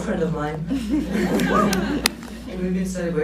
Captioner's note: laughs